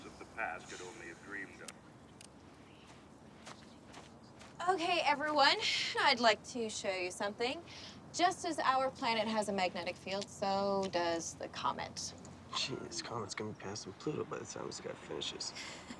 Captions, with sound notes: past could only have dreamed of. [Footstep] Okay, everyone, I'd like to show you something. Just as our planet has a magnetic field, so does the comet. Geez, comets can be passing Pluto by the time this guy finishes.